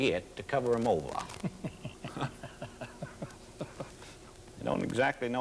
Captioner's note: laughs